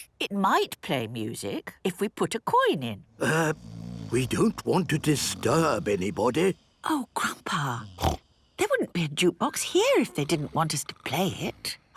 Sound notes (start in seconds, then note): 3.5 people snoring